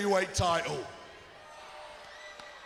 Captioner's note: crowd chatter